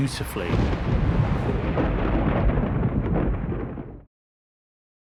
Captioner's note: rumbling